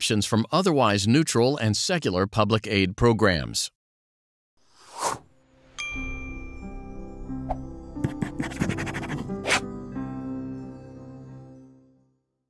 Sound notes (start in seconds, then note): 4.8 whooshing; 5.8 dinging; 8.0 scribbling